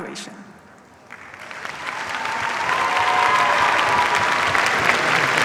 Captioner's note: cheers, applause